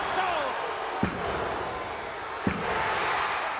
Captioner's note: hand pounding; crowd cheering